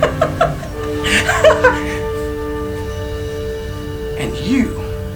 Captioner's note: maniacal laughter